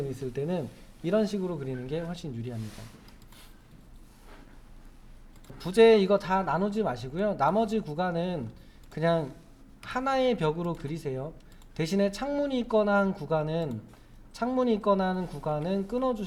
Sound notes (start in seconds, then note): 5.3 silence